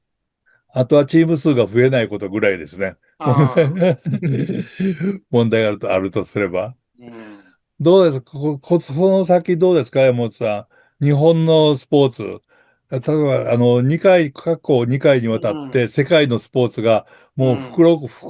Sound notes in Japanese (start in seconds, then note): 3.2 笑い; 4.3 咳払い